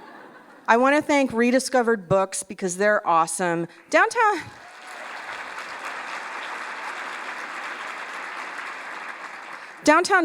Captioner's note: laughter; applause